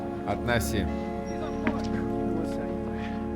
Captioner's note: muttering; indistinct chatter